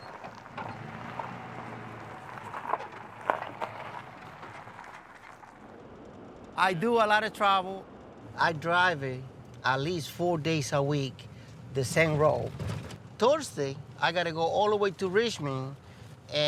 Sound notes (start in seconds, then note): 2.7 tires crunching; 5.8 engine humming